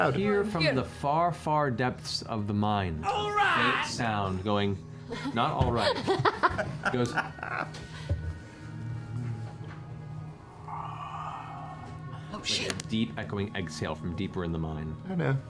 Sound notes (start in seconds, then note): 5.1 laughter; 10.7 creepy exhale